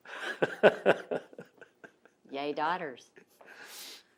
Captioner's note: laughs